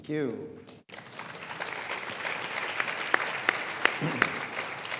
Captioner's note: audience applauds